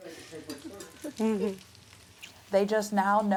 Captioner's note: kiss noise